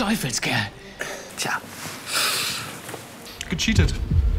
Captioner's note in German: Lautes Einatmen